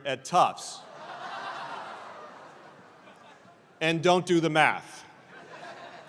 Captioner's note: laugh